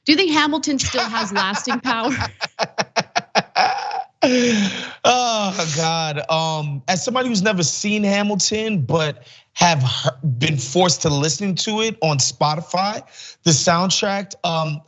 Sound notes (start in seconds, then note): 0.8 laugh